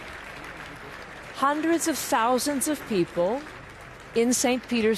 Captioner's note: applause